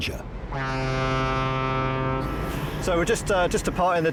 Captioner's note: ship's horn blaring